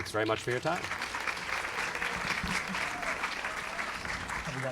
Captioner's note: applause